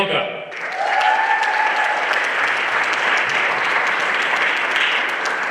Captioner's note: everyone applauding